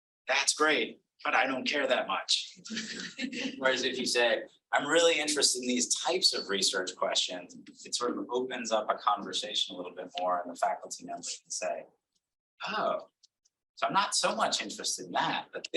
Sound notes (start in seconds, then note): 2.7 audience laughing